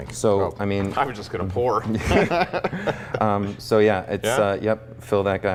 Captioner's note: laughs